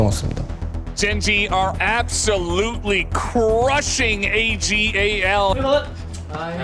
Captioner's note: commentator in English